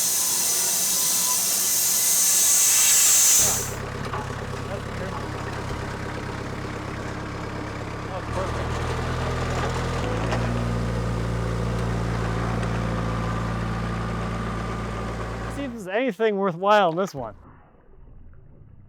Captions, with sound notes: (machinery stops) - See if there's anything worthwhile in this one.